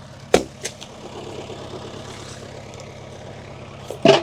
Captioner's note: wood thumps